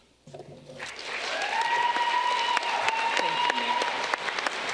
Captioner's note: audience clapping